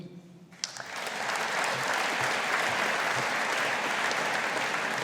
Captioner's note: audience applauding